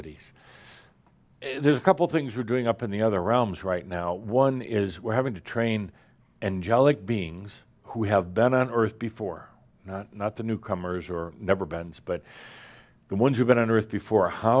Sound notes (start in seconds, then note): none